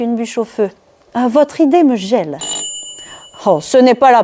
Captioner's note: ring of doorbell